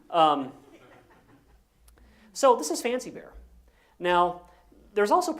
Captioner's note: laugh